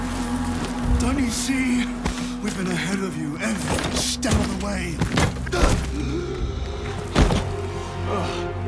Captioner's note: groaning